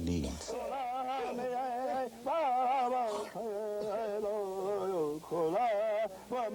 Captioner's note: speaking in foreign language